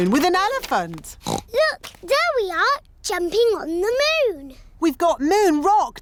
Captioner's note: oinks